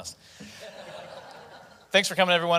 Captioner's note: audience laughing